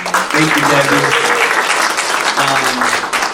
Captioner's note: attendees applauding